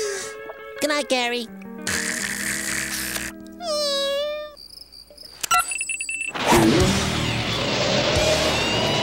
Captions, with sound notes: Goodnight, Gary. [snoring] [beeping]